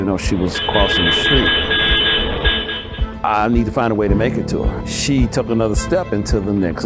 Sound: bus honking

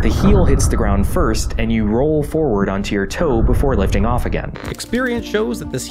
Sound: kaiju stomp

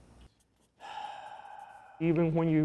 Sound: sighs

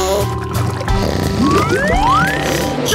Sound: snoring

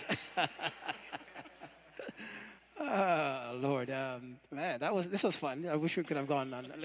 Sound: laughter

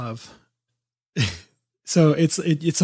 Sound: laughs

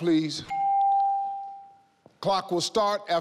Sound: timer chimes

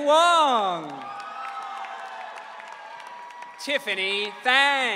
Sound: audience cheering

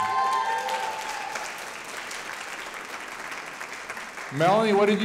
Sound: audience applauding

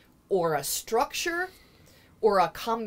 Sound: none

